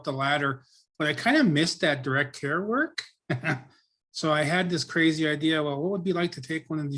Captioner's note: laughs